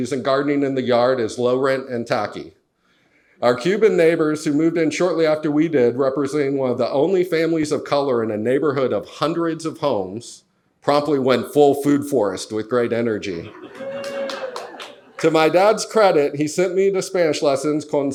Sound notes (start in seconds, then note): 13.2 audience laughs; 13.6 audience applauds